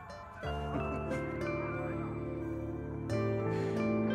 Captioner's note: Meher chuckles; Both laughing